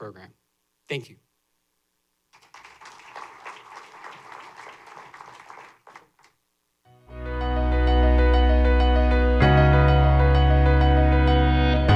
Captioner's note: applause